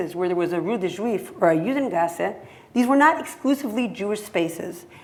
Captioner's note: hebrew